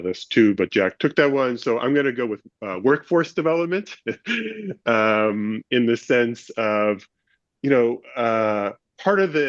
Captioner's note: laughs